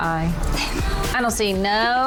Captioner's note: laughing